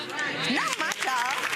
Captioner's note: audience clapping